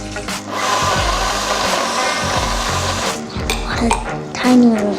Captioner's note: blender going